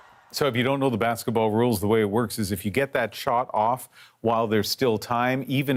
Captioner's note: cheers and Applause